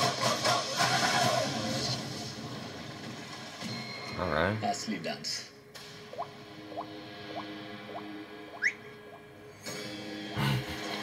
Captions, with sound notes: All right. "Real dance." "(Whistles)"